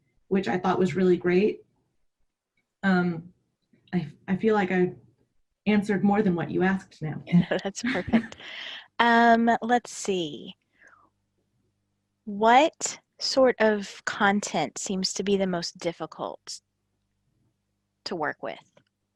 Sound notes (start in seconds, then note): 7.3 laughing